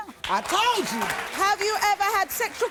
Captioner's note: audience applauding